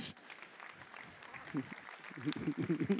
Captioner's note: applause